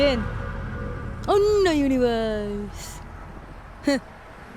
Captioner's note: mocking